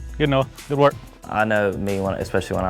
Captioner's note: voiceover